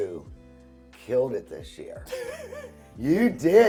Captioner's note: laughs